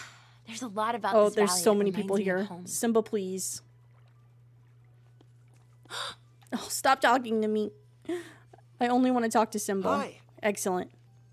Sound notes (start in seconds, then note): 5.9 Mirabel Gasps